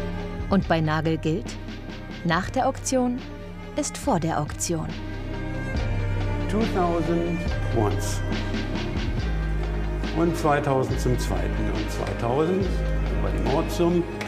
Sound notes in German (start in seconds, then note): 6.4 englisch